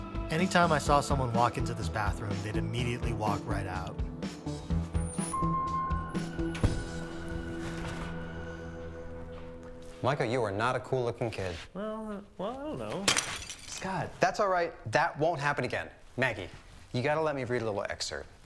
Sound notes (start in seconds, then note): 4.8 door alarm dinging; 13.0 vase breaking